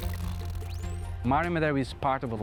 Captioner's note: dolphins chirping